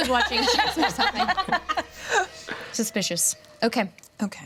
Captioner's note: everyone laughs; laughs